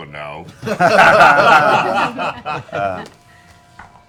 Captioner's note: laughter